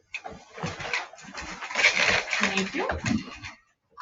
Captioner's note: chairs creak